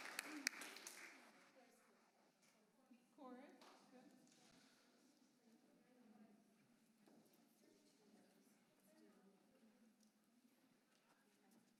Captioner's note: applause